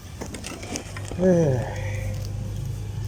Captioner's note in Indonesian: Menghela Nafas